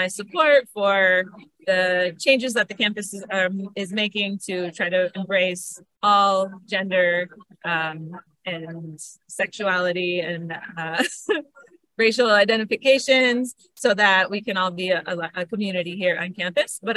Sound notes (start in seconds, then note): 10.9 laughs